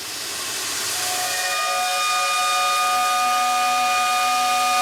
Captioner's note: whistle blows